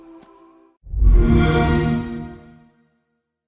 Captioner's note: xbox sound